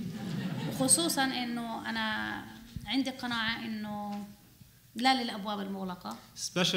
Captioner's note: laughter; speaking arabic